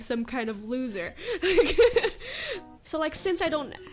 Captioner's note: laughs